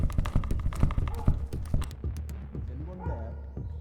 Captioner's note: window rattling; dog barking